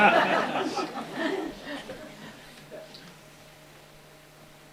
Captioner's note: laughter